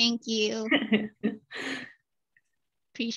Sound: laughter

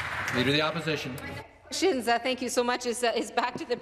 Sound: applause

